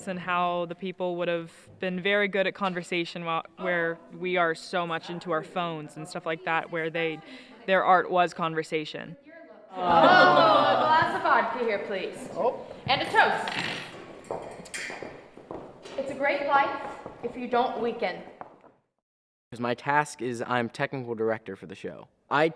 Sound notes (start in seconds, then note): 13.5 silverware clanking; 14.4 footsteps